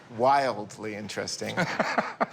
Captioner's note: laughs